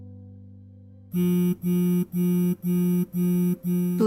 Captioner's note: phone ringing